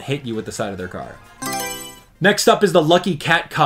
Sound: Mario Selection Sound

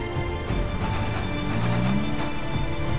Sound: car revving

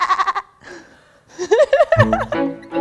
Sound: laughs

